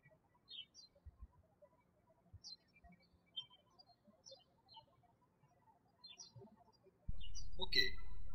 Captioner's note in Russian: птички щебечут